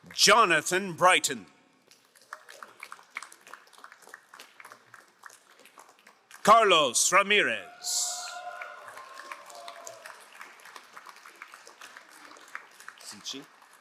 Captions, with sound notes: Jonathan Brighton. (crowd applauding) Carlos Ramirez. (crowd cheering and applauding)